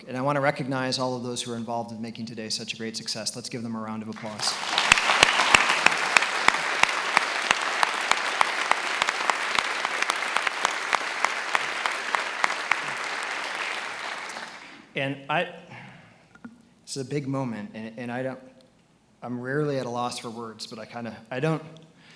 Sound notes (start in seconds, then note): 5.5 attendees applauding